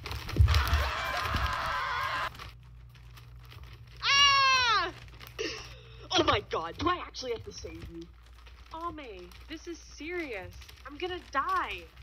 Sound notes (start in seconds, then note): 0.4 their parents and everyone else screaming; 4.0 Aika screaming